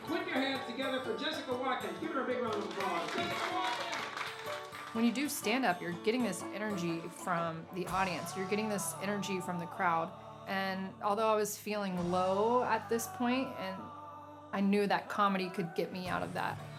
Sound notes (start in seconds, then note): 2.4 audience applause